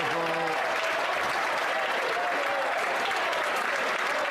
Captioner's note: some Applause